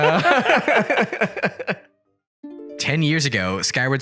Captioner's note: laughter